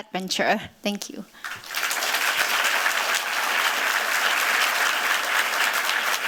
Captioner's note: applause